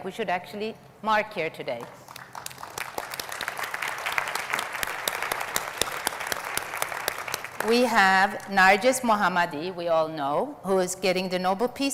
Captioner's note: audience applauds